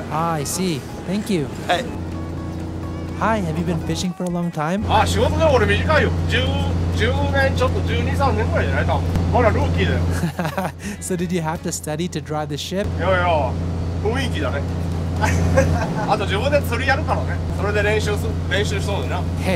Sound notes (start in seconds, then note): 10.0 laugh